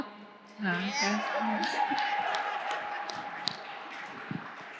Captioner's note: audience cheering